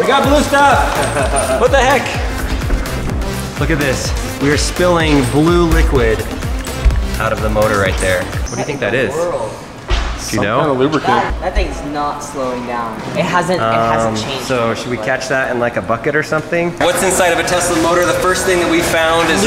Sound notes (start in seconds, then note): 0.8 laughing